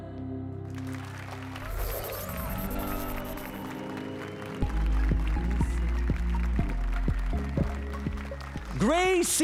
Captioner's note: applause and cheers